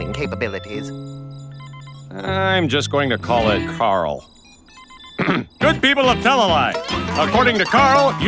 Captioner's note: clears throat